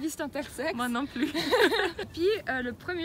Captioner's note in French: rires